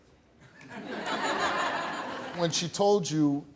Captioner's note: audience laughing